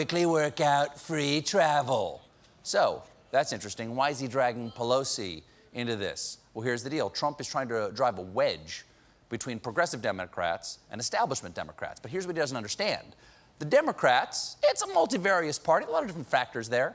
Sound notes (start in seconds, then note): none